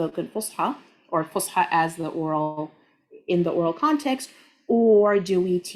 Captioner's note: speaking Arabic